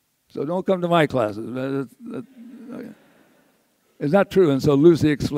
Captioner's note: audience laughs